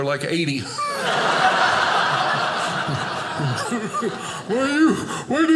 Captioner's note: audience laughing